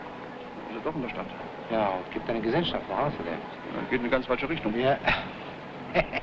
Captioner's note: officers speaking foreign language; officer chuckling